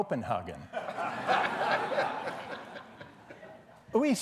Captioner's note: laughing